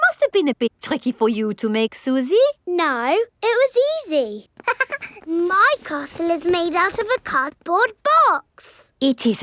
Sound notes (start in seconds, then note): 4.6 chuckles